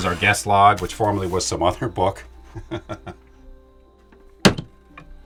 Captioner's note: chuckles